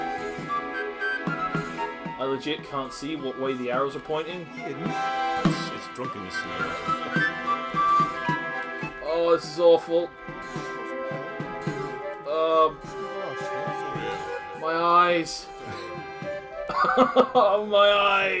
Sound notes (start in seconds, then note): 16.6 NinjaFish laughs; 16.6 laughs